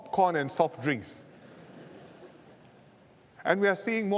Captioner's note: laughter